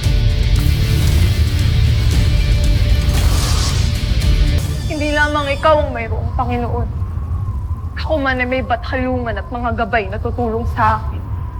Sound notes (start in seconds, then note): 0.8 infernal whoosh-crackle